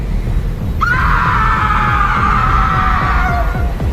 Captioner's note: Tina screams